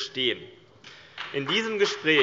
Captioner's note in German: Beifall CDU und BÜNDNIS 90/DIE GRÜNEN